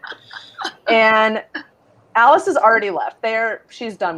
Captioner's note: laughing